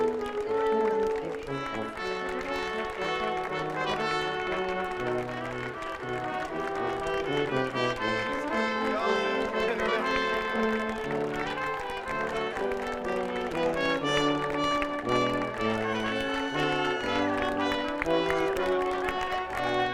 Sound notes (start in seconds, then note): 5.9 audience applauding; 5.9 upbeat processional music